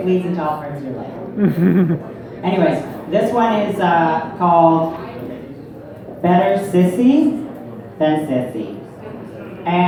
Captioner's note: person holding camera chuckles in understanding